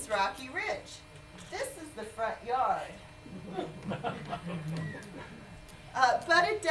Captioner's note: laughter